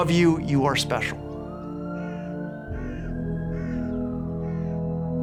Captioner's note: bird caws, sirens wailing